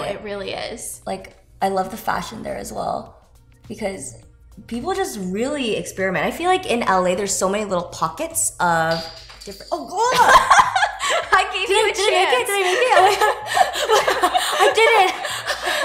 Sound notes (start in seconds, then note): 9.1 bottles crashing; 12.6 both laughing